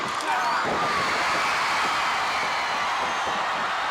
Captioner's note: audience chattering continues; audience roaring